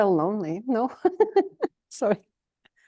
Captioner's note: laughter